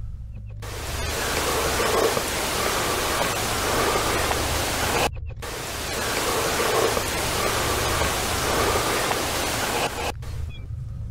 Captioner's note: barely audible footsteps - increased audio